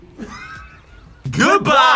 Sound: React laughs

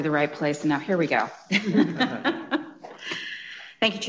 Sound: laughing

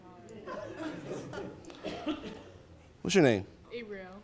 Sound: attendees laughing

